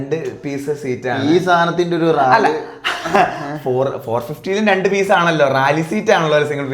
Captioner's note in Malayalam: പൊട്ടിച്ചിരി